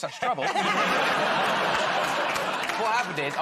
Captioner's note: laughter